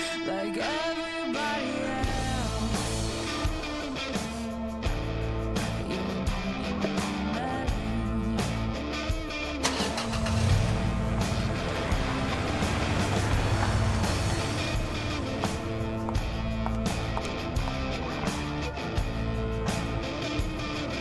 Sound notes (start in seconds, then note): 3.3 rock music; 10.1 car engine humming; 15.5 footsteps clacking